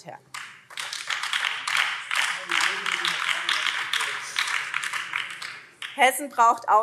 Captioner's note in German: Beifall BÜNDNIS 90/DIE GRÜNEN